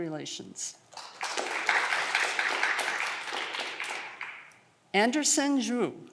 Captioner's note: audience clapping